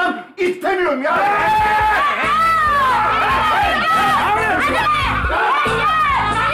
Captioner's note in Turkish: Bağrışmalar